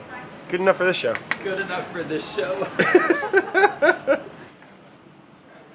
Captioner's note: laughing